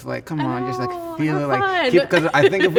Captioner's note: laughs